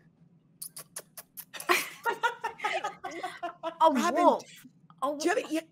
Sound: Fairuza imitates sound

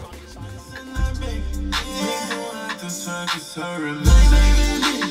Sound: distorted vocals

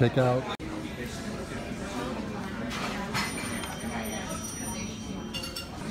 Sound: customer chatter; phone rings

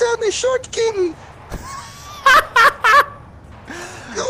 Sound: laughter

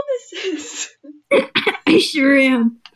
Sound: through slight laughter; small laugh

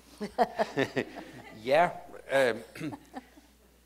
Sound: chuckles

